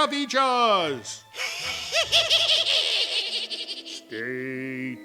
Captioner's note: sinister laughter